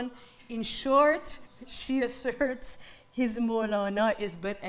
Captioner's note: speaks in foreign language